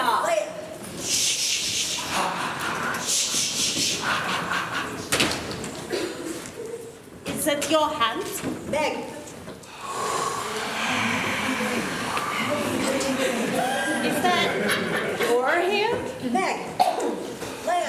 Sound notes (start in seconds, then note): 9.6 heavy breathing